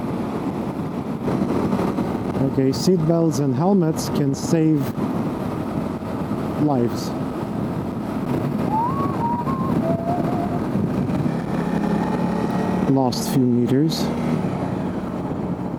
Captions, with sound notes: Okay. Seatbelts and helmets can save lives. [whistles] Last few meters...